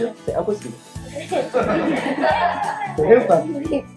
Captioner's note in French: rires